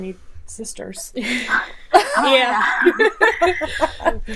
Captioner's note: laughing